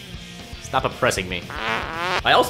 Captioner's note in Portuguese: som de peido